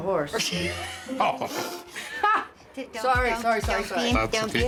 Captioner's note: laughter